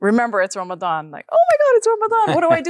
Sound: laughs

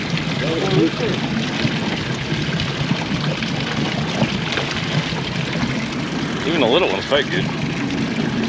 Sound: splashing

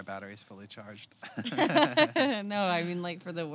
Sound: both laughing

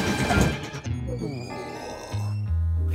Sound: groaning

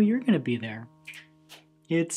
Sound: snaps and clap

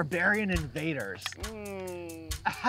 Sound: skeptical sound

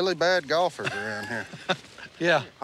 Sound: laughs

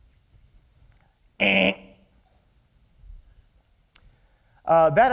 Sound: imitates a buzzer noise

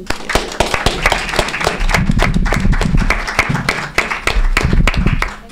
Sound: group applauds

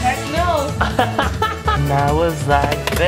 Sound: laughter

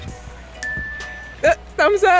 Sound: dings

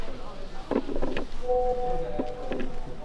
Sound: sound alert from mobile phone

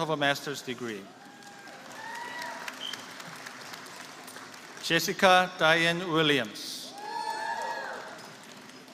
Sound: applause

